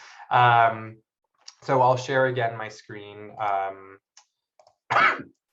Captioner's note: coughs